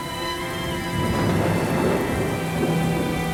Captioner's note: sound of rain falling